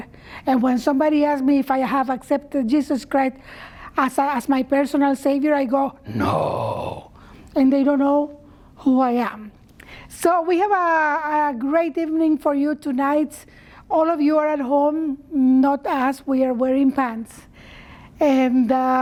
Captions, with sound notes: if I have accepted Jesus Christ as my personal Saviour, I go (GROWLING VOICE) No! And they don't know who I am. So we have a great evening for you tonight. All of you are at home. Not us. We are wearing pants. And we dressed up for you,